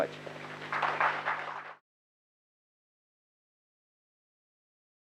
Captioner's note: applause